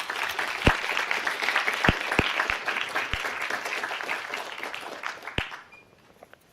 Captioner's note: applause